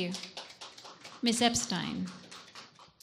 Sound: audience claps

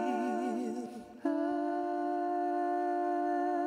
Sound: humming

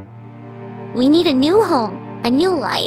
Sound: none

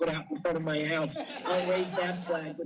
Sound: laughter

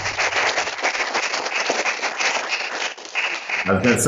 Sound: audience applauding

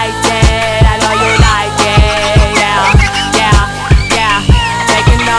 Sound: dolphin chirping

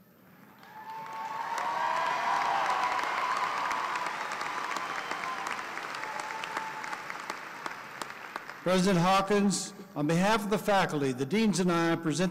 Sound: applause

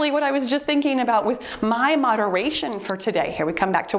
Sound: timer beeps

